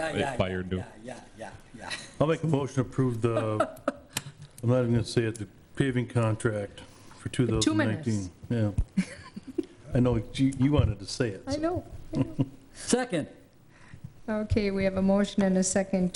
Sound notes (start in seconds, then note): 8.0 laughs; 12.1 laughs